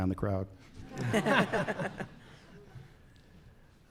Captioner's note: laughter